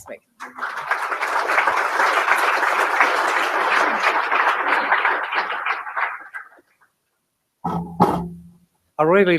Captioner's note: applause